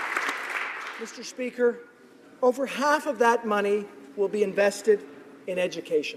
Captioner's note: applause